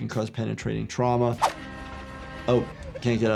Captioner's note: train honking